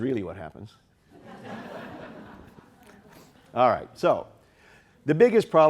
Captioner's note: audience laughing